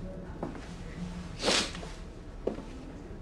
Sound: sniffles

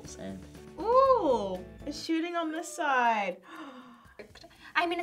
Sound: gasps

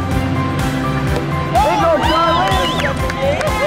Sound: cheering; clapping

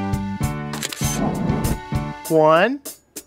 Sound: SFX: Camera Shutter

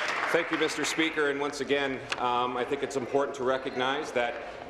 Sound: applause

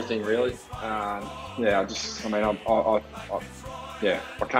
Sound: stammering

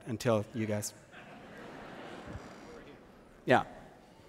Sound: laughter

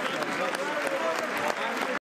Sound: applause

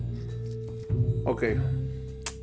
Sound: cutting burrito

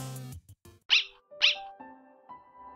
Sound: bark Bark

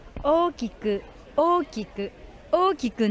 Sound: speaking in foreign language

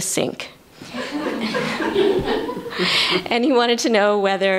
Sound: laughter

